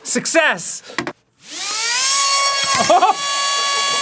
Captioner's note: high pitched buzzing ramps up